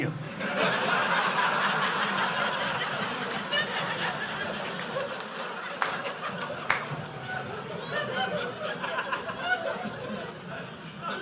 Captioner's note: audience laughing